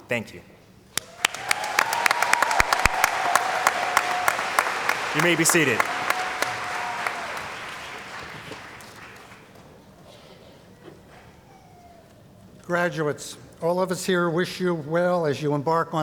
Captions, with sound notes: Thank you. [ Cheering & Applause ] You may be seated. >> Graduates, all of us here wish you well as you embark